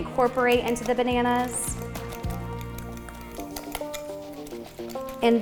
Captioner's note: uplifting music; fork stirring